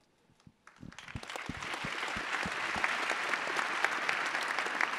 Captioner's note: attendees applauding